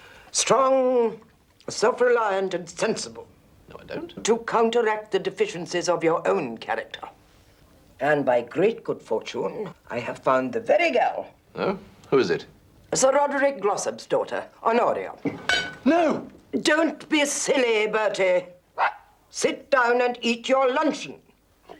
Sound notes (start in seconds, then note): 18.7 dog barks